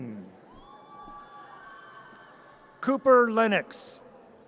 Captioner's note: audience cheers